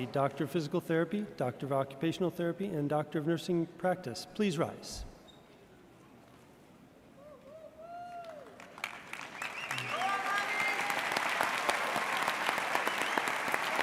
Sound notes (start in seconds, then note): 7.4 person cheers; 8.1 audience applauds; 9.2 audience cheers